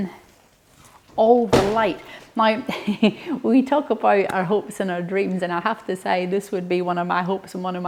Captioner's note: chuckles